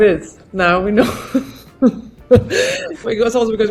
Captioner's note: laughing